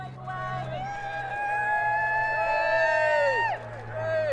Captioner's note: cheering and applause